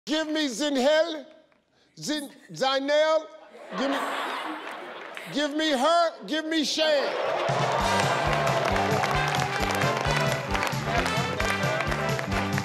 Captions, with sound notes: - Give me Zinhel-- Zinehl-- (audience laughing) Give me her. Give me Shane. (audience laughing) (festive music) (audience clapping)